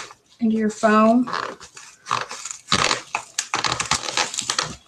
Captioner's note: foam crunching